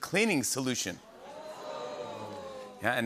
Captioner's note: audience "Oohs"